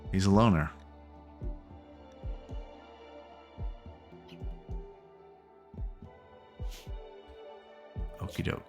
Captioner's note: silence